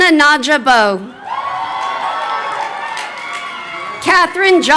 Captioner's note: crowd cheering